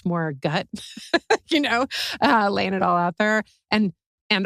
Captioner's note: laugh